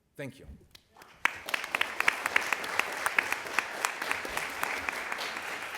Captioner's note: applause